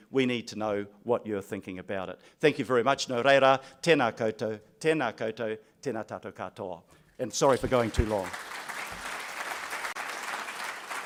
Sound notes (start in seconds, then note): 3.6 speaking in foreign language; 7.4 applause